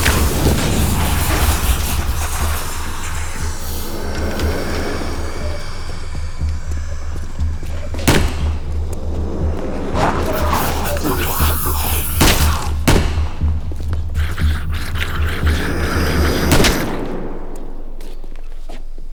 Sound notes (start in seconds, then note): 2.3 explosion; 12.0 bang; 16.5 bang